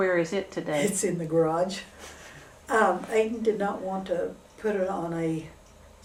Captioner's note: laughs